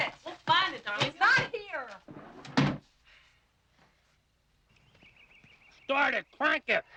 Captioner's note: sighs